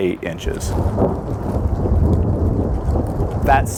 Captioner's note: thunder rumbling